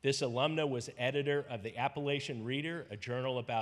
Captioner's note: none